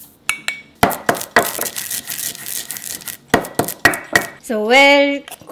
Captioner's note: pounding and grinding seeds